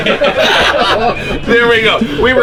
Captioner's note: all laughing